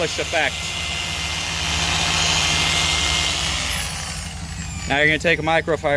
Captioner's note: buffer loudly whirring